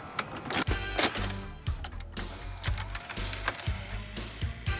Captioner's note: mechanical hum